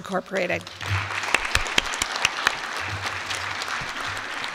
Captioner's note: applause